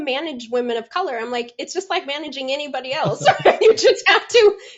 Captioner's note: laughs